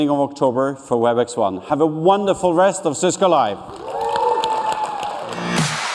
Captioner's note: cheers and applause